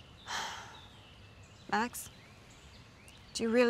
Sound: sighs

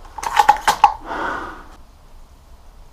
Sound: disapproving sigh

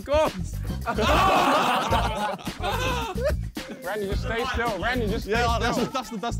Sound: all laughing hardly

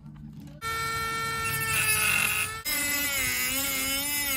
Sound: dremel whizzing

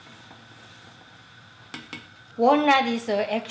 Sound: spoon tapping

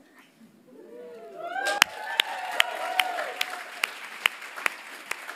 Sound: audience applauds

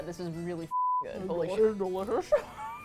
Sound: laughs

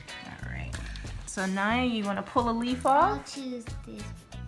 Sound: voiceover

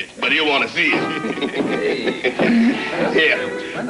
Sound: laughter

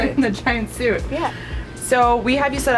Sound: laughs

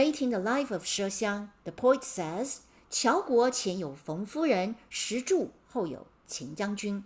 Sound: speaking in Mandarin

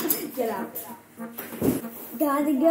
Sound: door hits foot

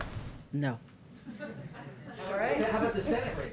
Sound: laughter

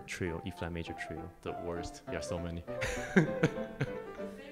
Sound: laughs

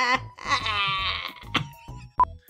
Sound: cough

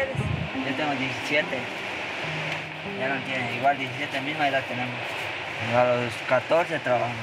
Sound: journalist speaking in foreign language; teenager speaking in foreign language

